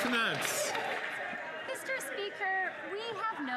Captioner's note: some Applause